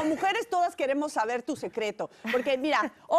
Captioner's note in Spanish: risas